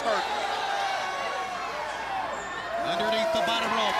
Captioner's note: crowd cheering